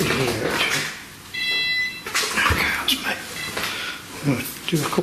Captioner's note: beeping